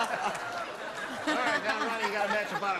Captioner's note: laughter